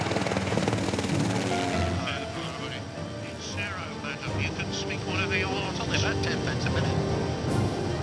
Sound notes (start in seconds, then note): 3.2 radio chattering